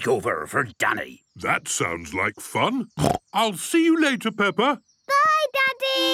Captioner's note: snorting